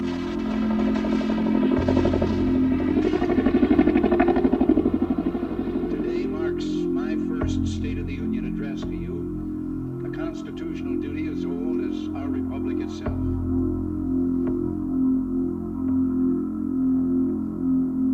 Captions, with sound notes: (rotor blades chopping) - Today marks my first State of the Union address to you, a Constitutional duty as old as our republic itself. (dramatic music)